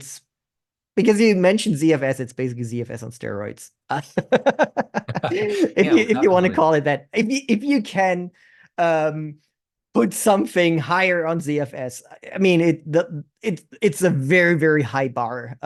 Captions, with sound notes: Because you mentioned ZFS, it's basically ZFS on steroids. [LAUGHTER] If you want to call it that. If you can put something higher on ZFS, it's a very, very high bar.